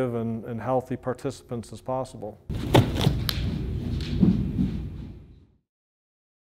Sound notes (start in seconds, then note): 2.5 footsteps pounding